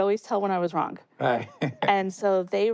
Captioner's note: laughs